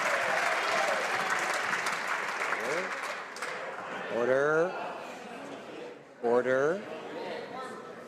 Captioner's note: some Applause